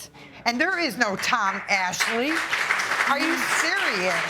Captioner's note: audience clapping